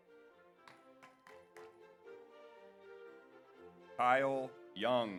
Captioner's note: audience applauds